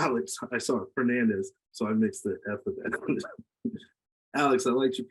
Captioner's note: laughs